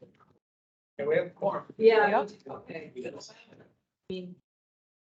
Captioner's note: indistinct chatter